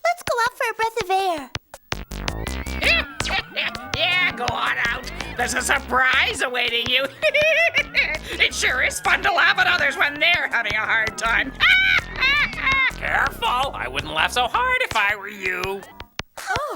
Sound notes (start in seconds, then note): 2.9 cackling; 7.3 cackling; 11.2 cackling